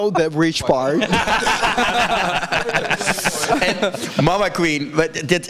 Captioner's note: everyone laughs